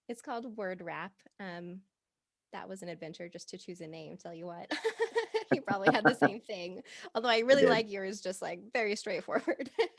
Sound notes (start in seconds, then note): 4.7 both laughing